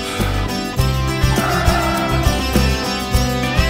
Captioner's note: Car halting